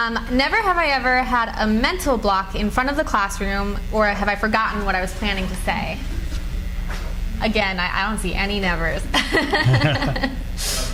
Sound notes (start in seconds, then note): 6.9 cards flutter; 9.2 laughing